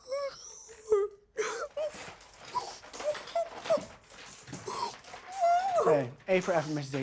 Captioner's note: Mrs. Hill whimpering and sobbing